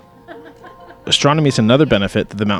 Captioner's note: woman laughing